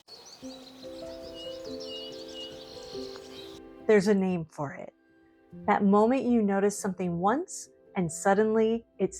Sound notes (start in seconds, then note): 2.4 birdsong & Music